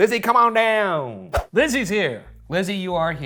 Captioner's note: screen whooshing